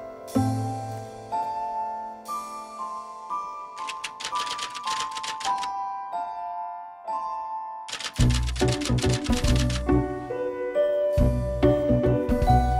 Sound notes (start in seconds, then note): 3.8 typewriter clanks; 7.9 typewriter clanks; 9.8 light music